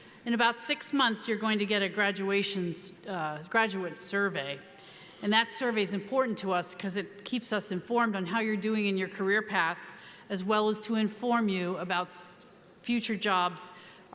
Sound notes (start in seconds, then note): none